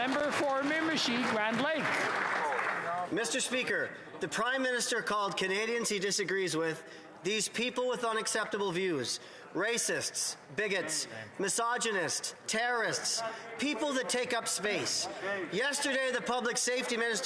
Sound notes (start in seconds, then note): 1.8 applause